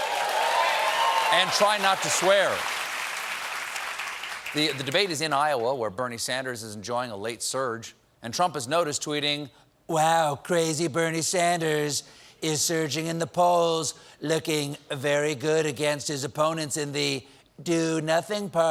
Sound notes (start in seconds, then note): 0.0 cheers and applause